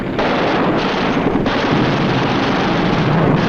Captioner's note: booming